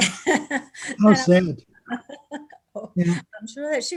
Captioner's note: laughing